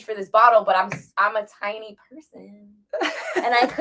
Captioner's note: laughs